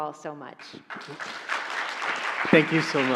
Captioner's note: audience applauding